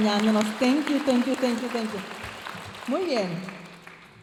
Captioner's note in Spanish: hablando en inglés